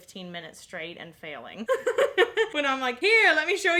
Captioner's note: laughing